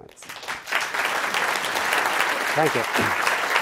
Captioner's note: audience applauding